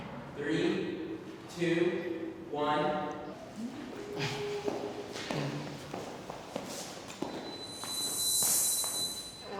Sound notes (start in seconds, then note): 5.1 feet tapping; 7.4 high pitched squeal